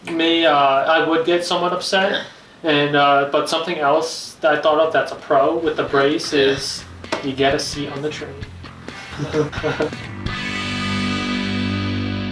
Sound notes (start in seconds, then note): 9.0 both laughing; 9.8 rock music